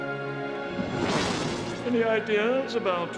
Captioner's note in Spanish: zumbido